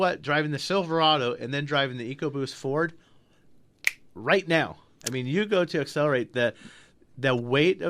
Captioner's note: snaps fingers